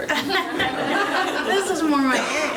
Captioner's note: audience laughs